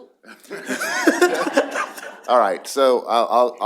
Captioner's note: laughter